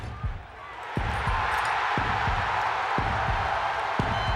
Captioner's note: crowd cheering